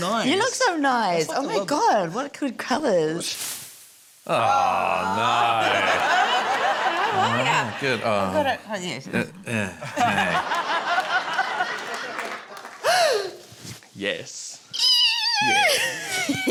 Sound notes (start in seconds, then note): 4.3 groans; 5.6 laughter; 9.4 grunts; 9.8 laughter; 12.8 gasps; 14.8 squeals, laughs